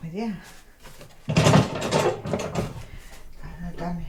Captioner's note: heavy sewing machine noise